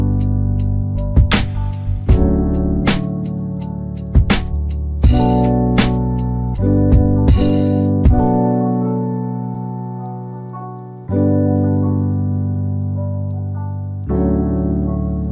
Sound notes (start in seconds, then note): none